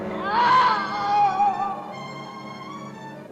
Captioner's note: Charlie groaning